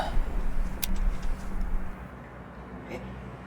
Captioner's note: clicking sound